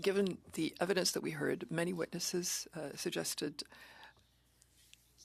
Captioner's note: speaking French